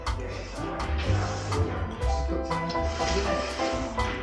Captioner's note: slurp slurp